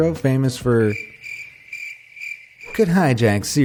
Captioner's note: chirping crickets